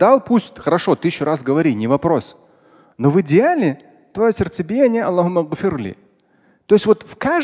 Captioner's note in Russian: говорит на арабском